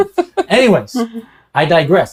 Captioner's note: laughs